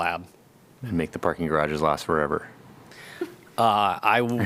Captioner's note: laughter